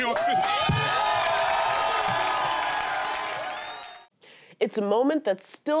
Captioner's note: cheers and applause